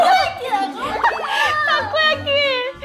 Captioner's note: burst out in laughter